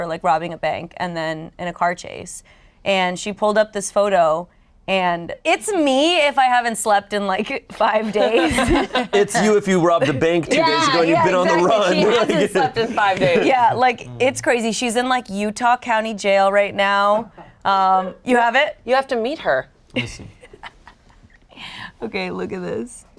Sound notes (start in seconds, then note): 8.0 group laughing